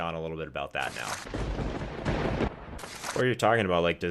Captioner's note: lightning striking